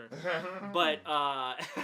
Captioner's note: laughs